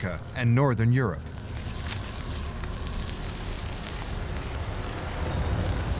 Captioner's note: wind howling and crackling ice